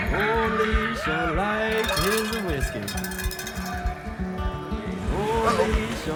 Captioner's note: people cheering; upbeat music continues; bells rattling